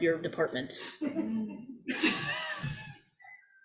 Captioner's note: all laugh